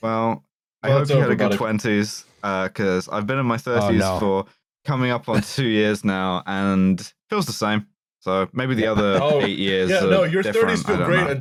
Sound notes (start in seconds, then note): 8.9 laughs